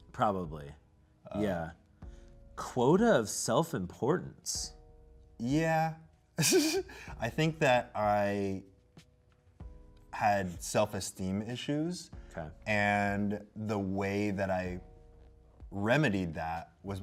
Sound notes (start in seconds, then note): 6.4 laughs